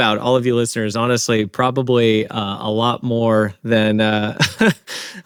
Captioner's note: chuckles